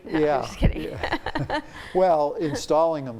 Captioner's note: both chuckle